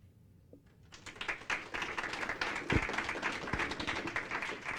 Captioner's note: applause